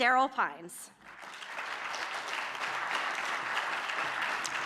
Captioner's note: audience clapping